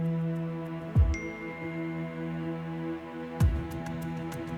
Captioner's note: dinging